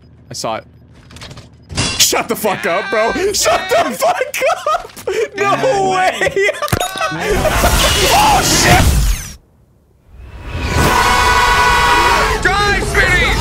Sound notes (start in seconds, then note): 10.7 all screaming